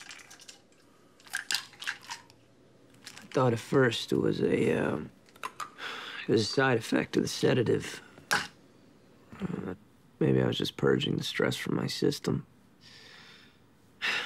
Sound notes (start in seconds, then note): 2.9 pills clatter